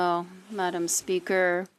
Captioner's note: speaking French